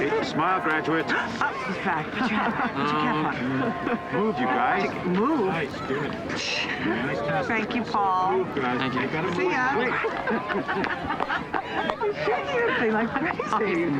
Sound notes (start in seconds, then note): 0.1 gasps; 9.2 laughs